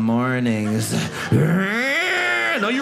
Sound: stomach growling sounds

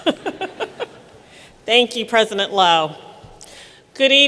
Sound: laughter

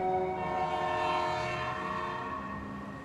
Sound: train horn

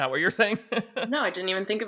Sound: laughing

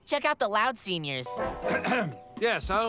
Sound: clearing throat

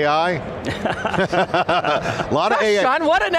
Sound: men laughing

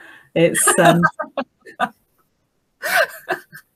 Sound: laughing

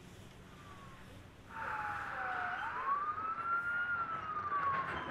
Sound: street sounds

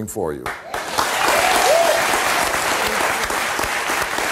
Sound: audience claps

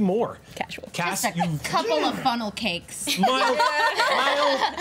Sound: grunts

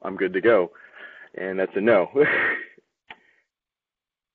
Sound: laughs

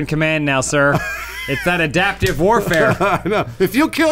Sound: laughing

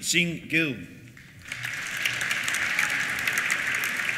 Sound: applause; cheers

